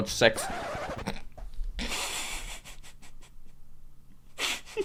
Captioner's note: record scratch